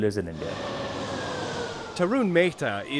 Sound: scooter engine whirring

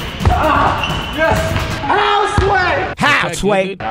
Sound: upbeat music; groans

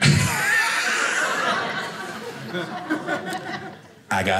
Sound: audience laughing

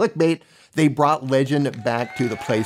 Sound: crowd applauding

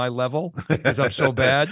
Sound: laughing

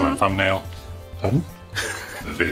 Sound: groans softly

